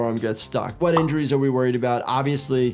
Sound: graphic pops

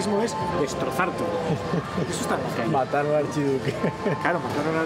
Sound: laughs

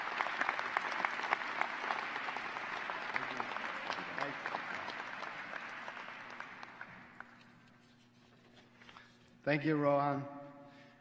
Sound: applause

